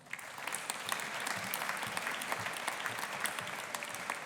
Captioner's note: audience applauding